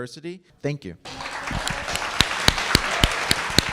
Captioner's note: audience clapping